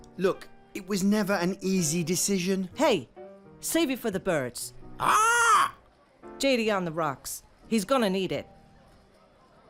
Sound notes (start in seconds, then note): 5.0 parrot squawks